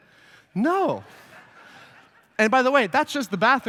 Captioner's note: laughter